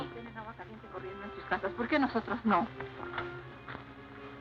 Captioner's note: speaking spanish